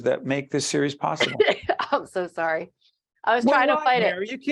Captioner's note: coughing